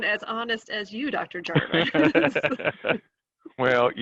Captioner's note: both laughing